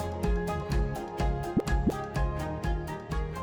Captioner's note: graphic pops